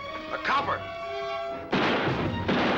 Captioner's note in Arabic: طلقات نارية